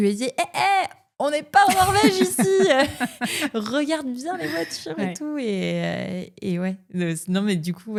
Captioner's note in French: rires